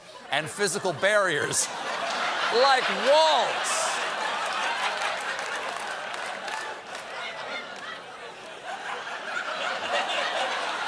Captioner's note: laughter